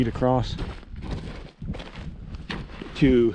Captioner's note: footsteps thumping